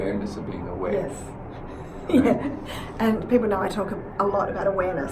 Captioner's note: laughs